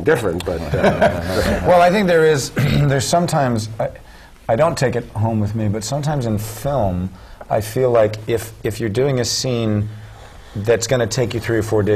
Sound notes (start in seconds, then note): 0.5 laugh; 2.5 cough